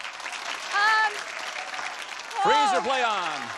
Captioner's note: applause